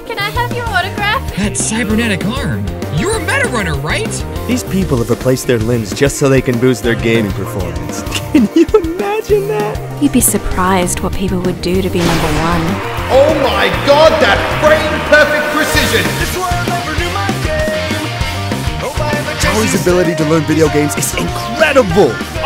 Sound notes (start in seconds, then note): 8.0 chuckles